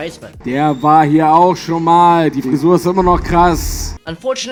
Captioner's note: German noises